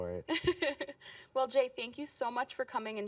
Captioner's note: laughing